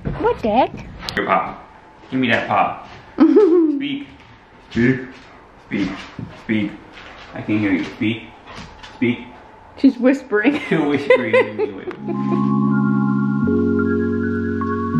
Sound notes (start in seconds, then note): 10.5 laughing; 11.9 gentle music